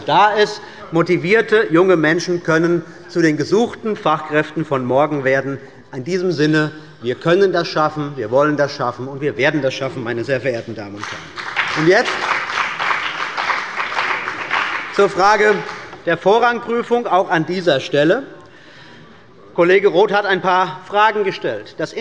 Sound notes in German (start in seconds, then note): 10.9 Beifall bei der CDU und dem BÜNDNIS 90/DIE GRÜNEN